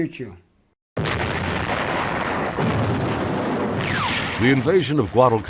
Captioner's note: explosions booming